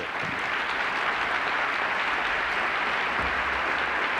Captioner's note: applause